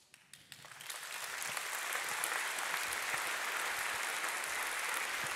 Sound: audience applauding

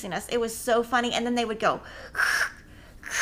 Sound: mimicking llamas

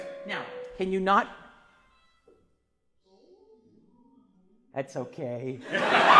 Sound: cell phone rings; class laughs

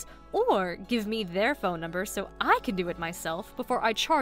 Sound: none

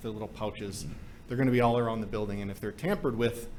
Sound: none

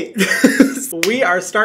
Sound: Hyram laughing

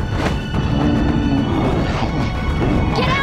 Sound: Appa whimpers

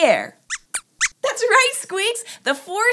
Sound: squeaks squeaks

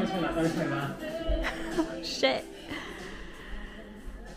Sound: laughs

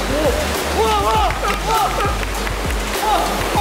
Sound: clapping

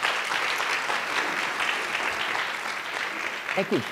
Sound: applause

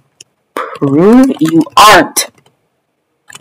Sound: typing

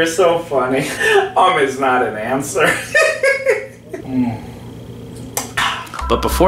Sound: laughs

